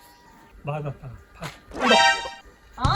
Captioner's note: talking